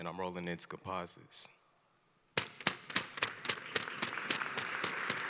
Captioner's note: applause